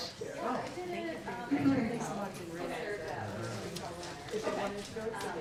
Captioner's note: excited conversations